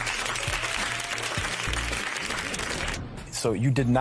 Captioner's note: applause